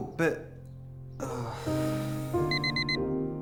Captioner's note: sighs; alarm beeping